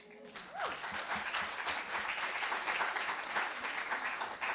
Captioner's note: applause